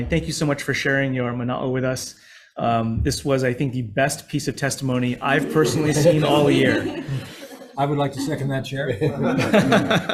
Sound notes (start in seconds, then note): 7.0 committee members laughing; 8.9 laughs